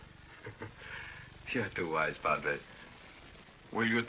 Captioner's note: laughs